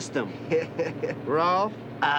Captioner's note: laughs